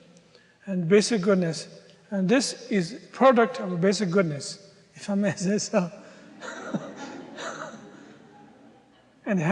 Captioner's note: audience laughter